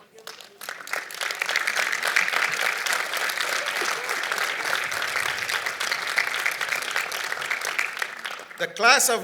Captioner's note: applause